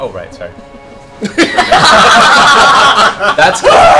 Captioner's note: laughter